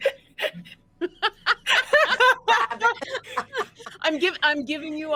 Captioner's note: all laughing